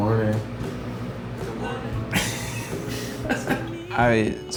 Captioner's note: chuckles